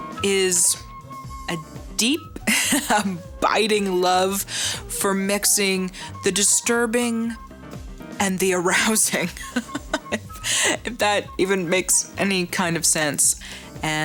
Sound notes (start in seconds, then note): 9.7 laughs